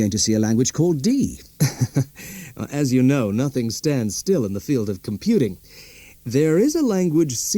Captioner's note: laughs